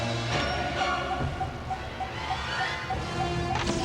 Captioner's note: beeping